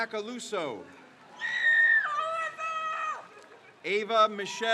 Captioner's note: crowd cheers